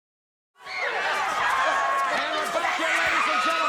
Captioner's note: audience cheers